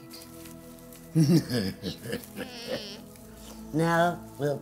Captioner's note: witchy laughing